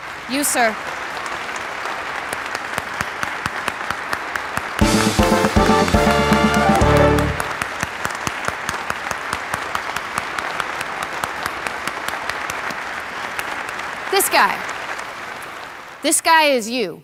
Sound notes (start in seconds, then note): 1.6 applause